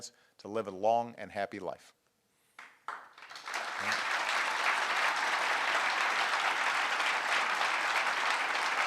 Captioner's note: applause